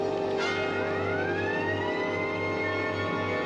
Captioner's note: siren blaring